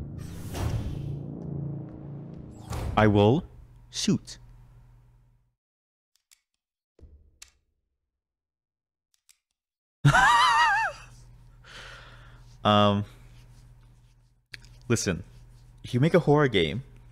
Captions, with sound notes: I will shoot. *nervous laughter* Ummm... Listen, if you make a horror game...